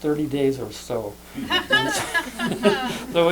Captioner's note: laughter